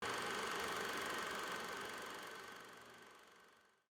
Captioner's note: projector whirring